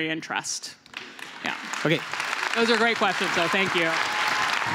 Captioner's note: applause